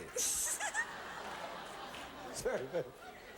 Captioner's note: audience laughing